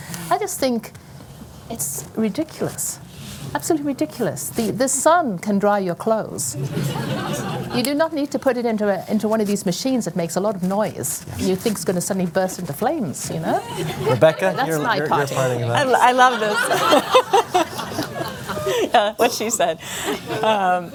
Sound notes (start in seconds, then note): 6.5 laughter